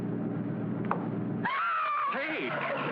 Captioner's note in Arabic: صراخ